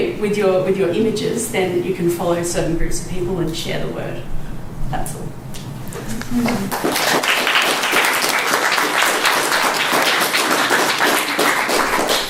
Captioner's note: applause